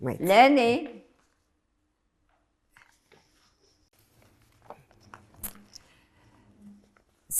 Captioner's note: pauses 6 seconds